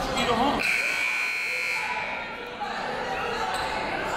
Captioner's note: buzzer